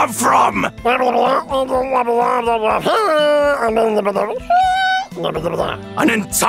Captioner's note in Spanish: ruidos de trasgo explicativos